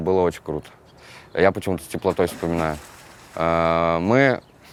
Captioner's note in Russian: Всплеск воды